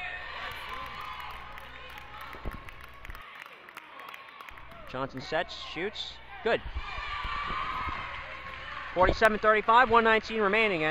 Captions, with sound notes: (crowd applauds) Johnson sets, shoots, good. (crowd cheers) 47-35, 1:19 remaining.